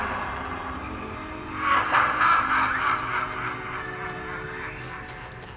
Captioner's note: sinister laughing